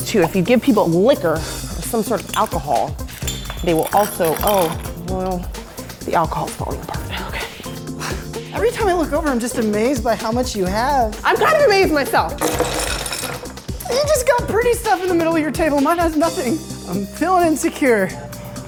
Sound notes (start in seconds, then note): 12.4 shells clinking